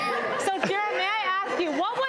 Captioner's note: laughter